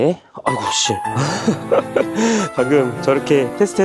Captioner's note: laugh